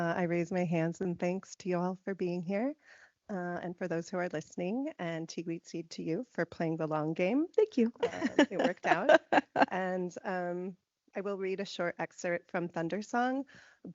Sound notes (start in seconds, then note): 5.1 speaking in foreign language; 8.0 laughing